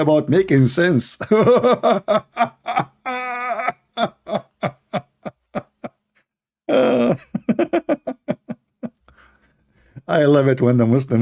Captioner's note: Ketawa